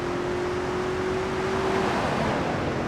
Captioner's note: car engine roaring